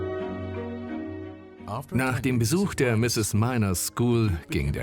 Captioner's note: voiceover